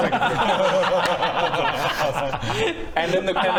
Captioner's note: giggles